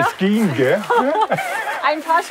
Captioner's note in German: Lachen